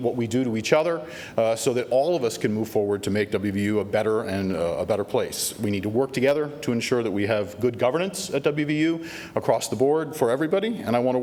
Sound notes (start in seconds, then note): none